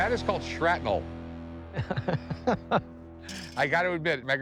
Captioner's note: laughs